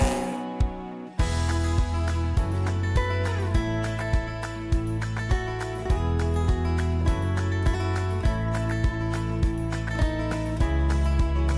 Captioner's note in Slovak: Potlesk